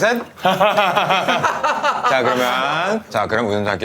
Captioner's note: hahahahahahaha